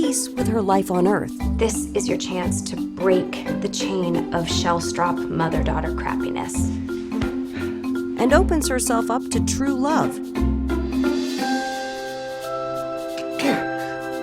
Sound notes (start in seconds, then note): 7.4 sighs; 13.2 sneezes